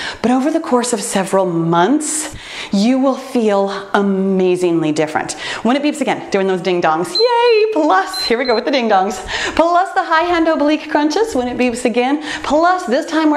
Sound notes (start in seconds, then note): 7.9 timer beeps